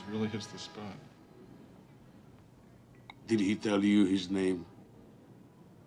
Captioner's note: none